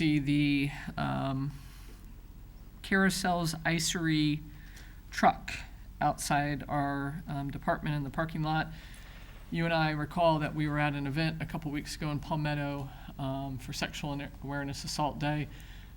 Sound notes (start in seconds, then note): none